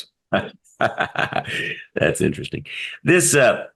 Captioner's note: laugh